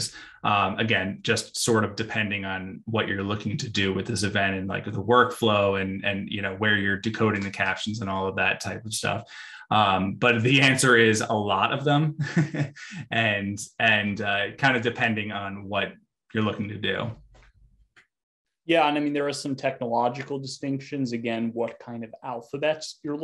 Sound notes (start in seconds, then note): 12.7 laughs